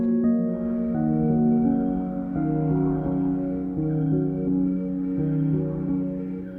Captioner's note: lights ticking; alarm blaring